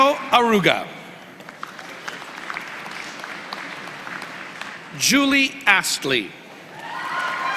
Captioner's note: applause